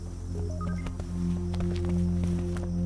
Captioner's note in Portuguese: toque de celular